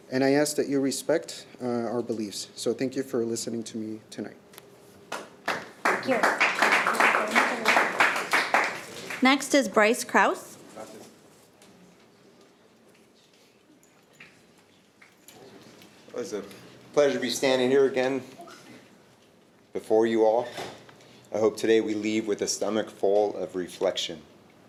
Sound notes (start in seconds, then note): 5.1 audience applauding